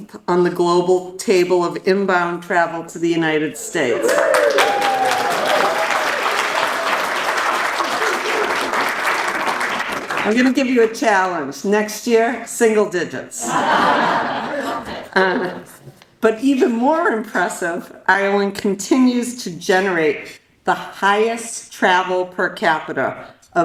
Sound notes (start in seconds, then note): 4.0 audience cheers and applauds; 13.4 audience laughs